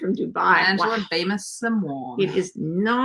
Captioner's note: foreign language